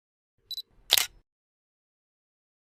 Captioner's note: camera Shutter Sound